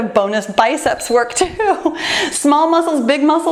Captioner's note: timer beeps; laughs